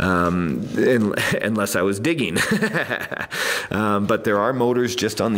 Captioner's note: laughs